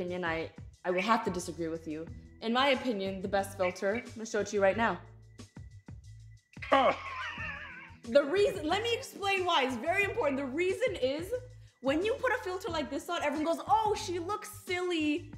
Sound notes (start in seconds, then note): 6.6 laughs